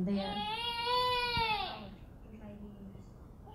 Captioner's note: baby crying